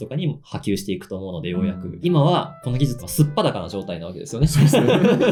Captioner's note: laughs